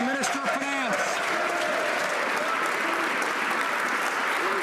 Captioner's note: some Applause